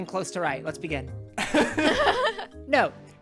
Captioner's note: everyone laughing